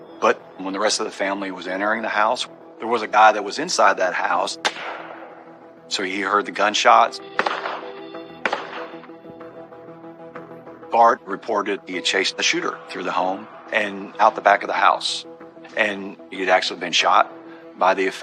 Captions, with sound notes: But when the rest of the family was entering the house, there was a guy that was inside that house. [gunshot] So he heard the gunshots. [gunshots] Bart reported he had chased the shooter through the home and out the back of the house. And he had actually been shot by the offender.